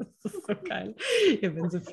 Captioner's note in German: lachen